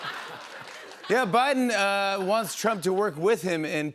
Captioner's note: laughter; normal voice